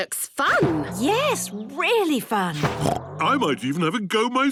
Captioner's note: snorts